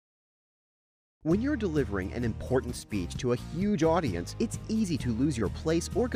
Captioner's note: voiceover